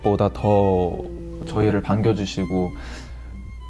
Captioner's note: grrrrr